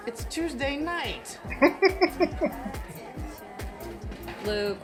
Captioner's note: chuckling